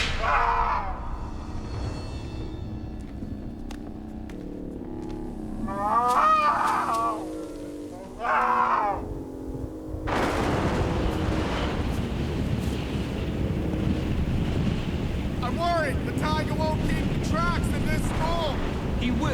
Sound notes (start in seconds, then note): 0.2 groaning; 5.4 groaning; 8.0 thunder crashing